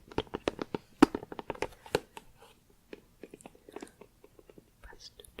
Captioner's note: tapping on plastic